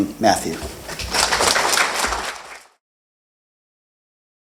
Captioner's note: applause